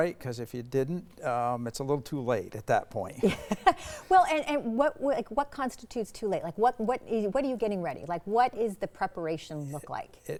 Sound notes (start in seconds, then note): 3.2 laughing